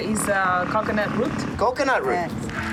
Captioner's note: speaking In Foreign Language